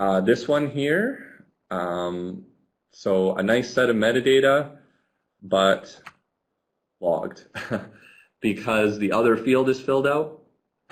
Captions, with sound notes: This one here. So a nice set of metadata. But, blocked (laughs). Because, the other field is filled out,